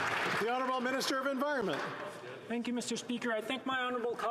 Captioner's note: some Applause